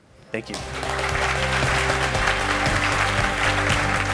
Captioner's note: applause